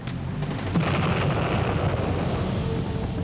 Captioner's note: explosion